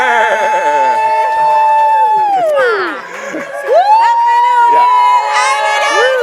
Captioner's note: audience cheers and claps